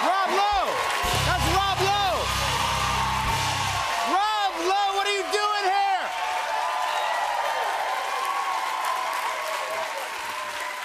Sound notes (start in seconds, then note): 6.5 cheers and applause